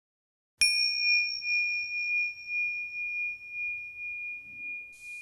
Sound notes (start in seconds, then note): 0.6 bell dings